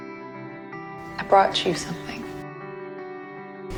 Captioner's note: voiceover